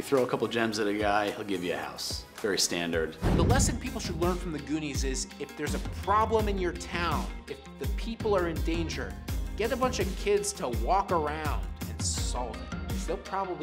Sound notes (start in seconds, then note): 3.2 air whooshes; 4.9 cheerful instrumental music